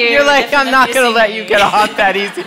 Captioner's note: laughter